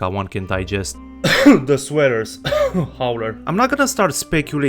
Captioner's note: cough